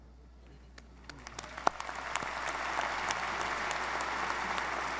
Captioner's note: audience applauding